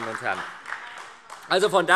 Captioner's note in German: Beifall SPD